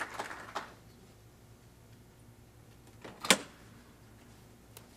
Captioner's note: clapping